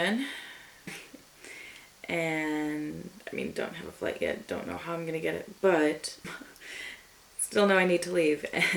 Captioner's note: chuckles